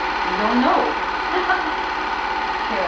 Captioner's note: laughing